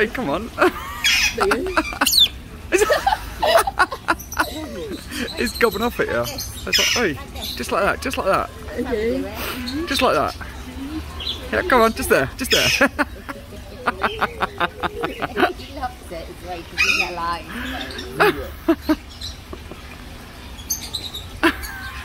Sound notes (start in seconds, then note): 13.8 laugh